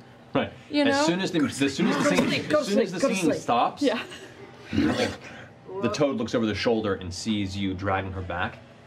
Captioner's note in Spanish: gruñido